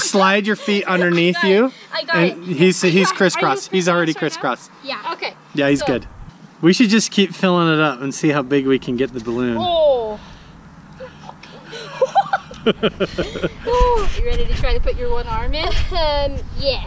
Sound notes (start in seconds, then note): 11.0 laughing